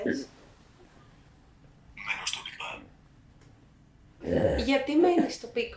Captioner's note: achmet – artificial male voice